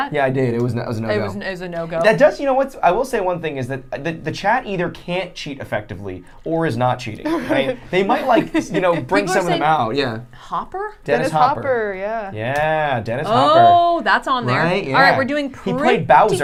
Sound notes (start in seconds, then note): 7.2 laughing